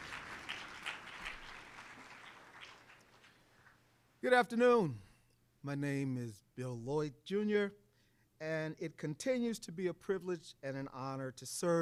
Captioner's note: applause